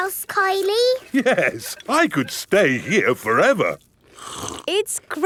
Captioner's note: slurps